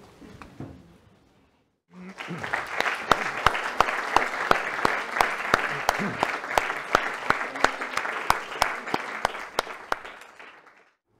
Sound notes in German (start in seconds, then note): 4.0 Applaus